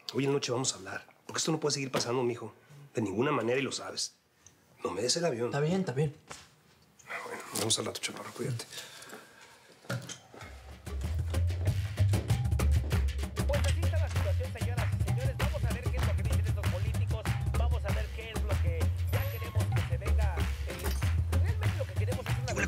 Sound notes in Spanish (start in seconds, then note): 13.7 voz en el radio